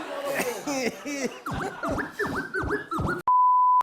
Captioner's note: laughter; record scratching